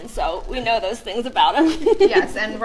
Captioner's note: laughter